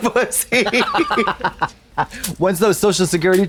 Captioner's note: blonde Women titter